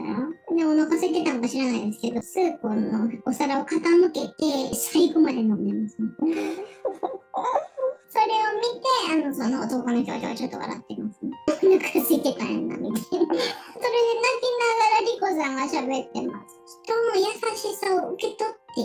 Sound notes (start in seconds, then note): 6.2 laugh